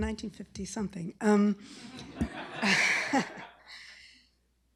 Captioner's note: laughter